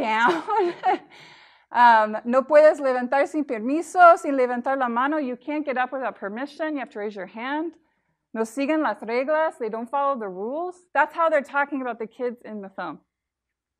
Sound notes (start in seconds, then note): 0.2 laughing; 1.6 speaking foreign language; 8.1 speaking foreign language